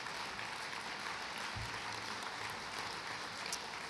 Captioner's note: applause